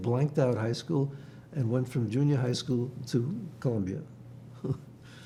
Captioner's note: laughing